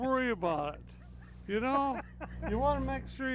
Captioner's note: laughs